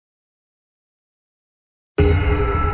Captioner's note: long intentional silence